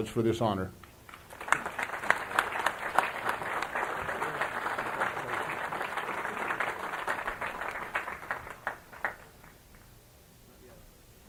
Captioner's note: applause